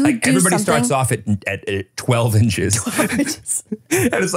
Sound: chuckles

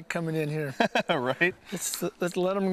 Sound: laghter

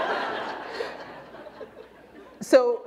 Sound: laughter

